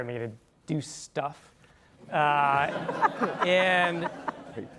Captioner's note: laugh